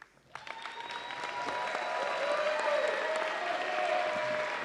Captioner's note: audience applauding